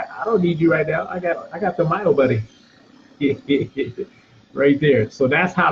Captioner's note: laughing